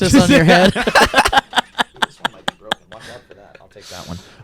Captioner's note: laughs